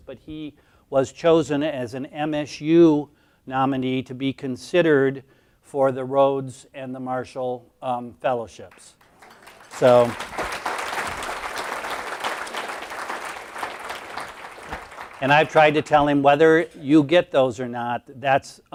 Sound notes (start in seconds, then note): 8.7 applause